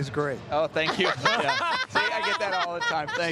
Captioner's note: everyone laughing